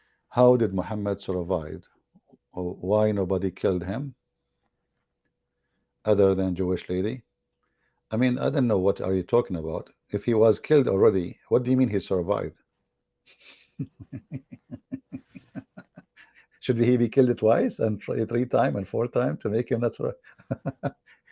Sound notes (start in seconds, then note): 13.3 Ketawa